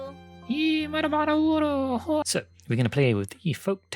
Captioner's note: silly beaver noises